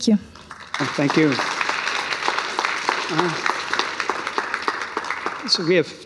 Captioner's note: applause